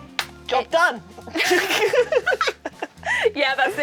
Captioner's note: both laughing